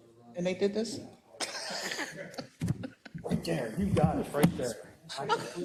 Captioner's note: laugh